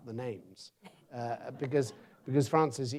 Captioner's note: audience laughs